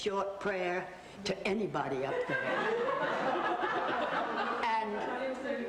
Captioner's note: audience laughs